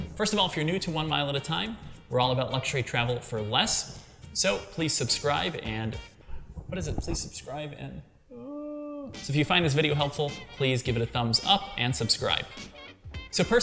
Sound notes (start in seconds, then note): 8.2 moans